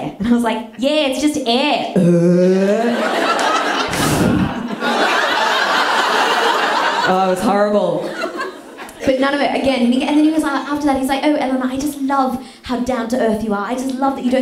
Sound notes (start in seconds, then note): 3.8 blows air; 4.7 burp